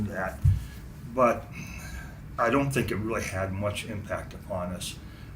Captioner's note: sighs